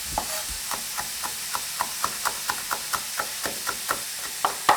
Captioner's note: knife chopping